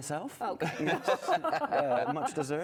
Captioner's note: laughter